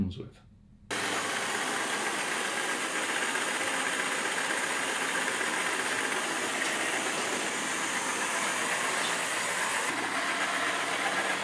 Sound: robot cleaning

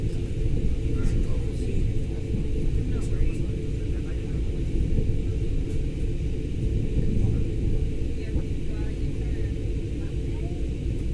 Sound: passenger chatter

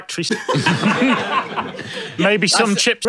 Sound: laughter

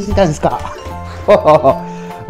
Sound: laughs

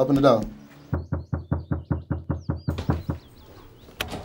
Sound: knocking

